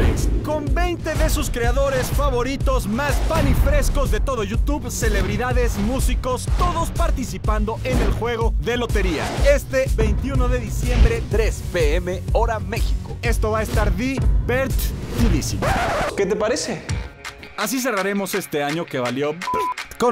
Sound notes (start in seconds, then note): 15.2 record scratch